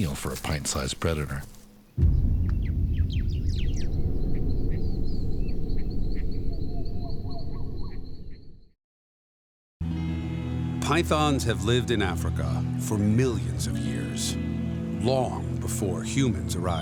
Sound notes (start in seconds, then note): 1.9 light dramatic music; 2.2 birds chirping; 10.0 light music